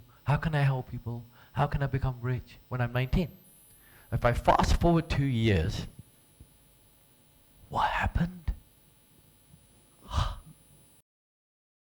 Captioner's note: gasps